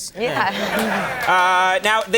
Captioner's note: audience laughing